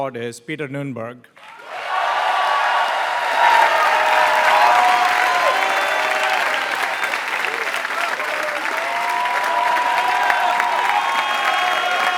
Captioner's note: applause